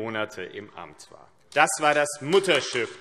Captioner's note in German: Beifall AfD